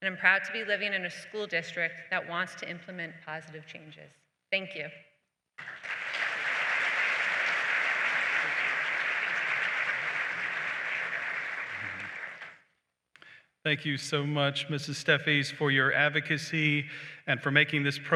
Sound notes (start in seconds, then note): 5.6 applause